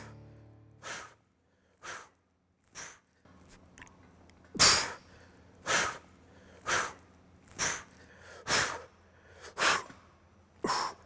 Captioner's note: sighs; breathes